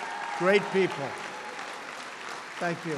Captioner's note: applause